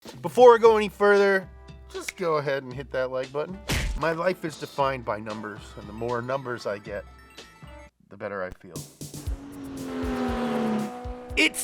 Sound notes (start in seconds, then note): 3.7 fist punching; 9.2 car zooms